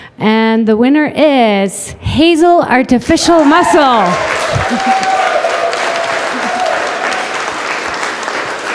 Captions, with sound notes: And the winner is, HASEL Artificial Muscle! [audience applause]